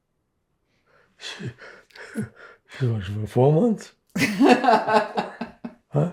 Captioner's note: laughing